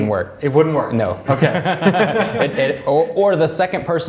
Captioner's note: laughing